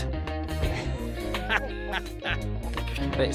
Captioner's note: laughter